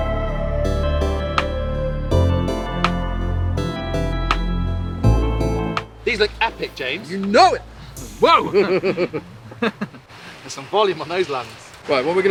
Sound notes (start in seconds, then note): 9.3 laughing